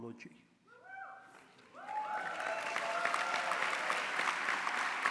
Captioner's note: applause